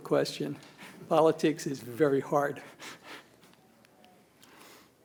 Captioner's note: chuckles